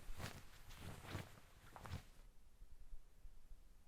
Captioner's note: jacket rustles